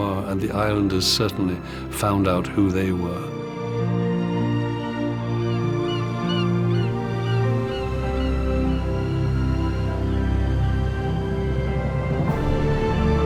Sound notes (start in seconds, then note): 4.0 bright music; 5.4 birds squawking